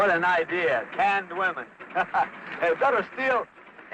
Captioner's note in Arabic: يضحك